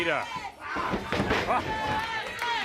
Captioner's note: crowd cheering